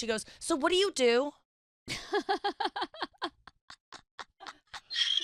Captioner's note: laughing